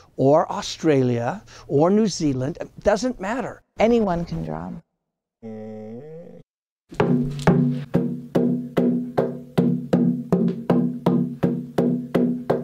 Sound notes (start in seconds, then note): 5.4 dog groans; 6.9 drum beating